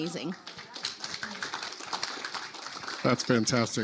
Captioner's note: audience applauding